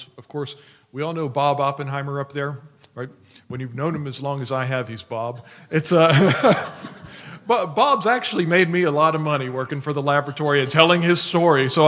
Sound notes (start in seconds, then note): 6.0 laughter